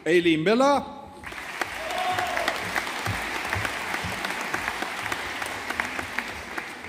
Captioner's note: audience applauding